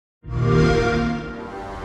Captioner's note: xbox sound